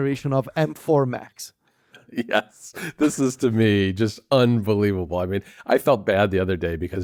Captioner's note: laughs